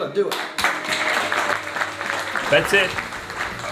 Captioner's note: applause